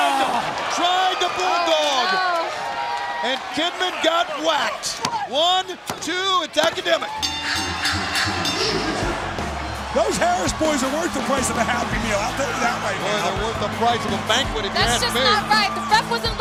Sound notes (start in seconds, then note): 7.1 bell ringing